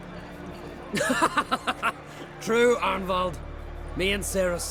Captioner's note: laughs